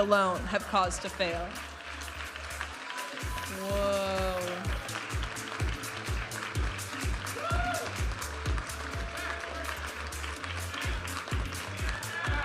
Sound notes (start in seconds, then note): 2.7 audience applauding and cheering; 5.2 upbeat music; 7.2 audience applauding and cheering